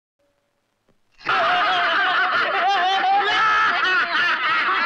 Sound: laughing

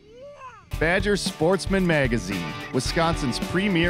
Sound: voiceover

